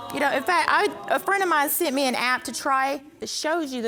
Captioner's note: stammering